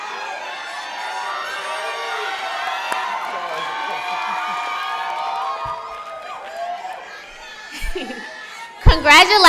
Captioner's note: cheering